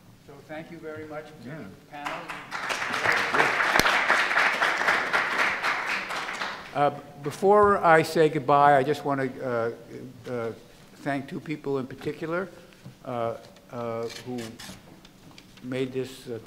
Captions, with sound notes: - So thank you very much the panel. (audience and panelists applaud) Before I say goodbye, I just wanna thank two people in particular who made this Conferences